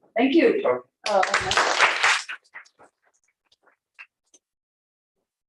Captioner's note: applause